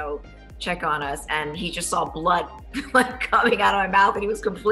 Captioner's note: laughs